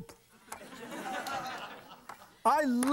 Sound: audience laughs

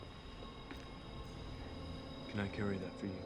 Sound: train approaching

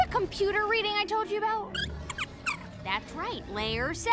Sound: squeaks

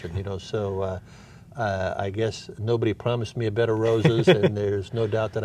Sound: laughs

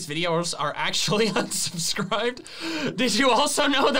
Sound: laughs

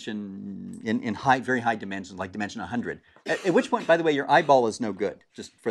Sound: cough

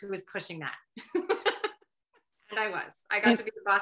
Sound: laughs

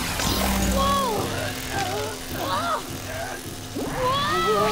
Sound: grunting

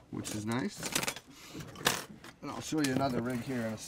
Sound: hooks clanking

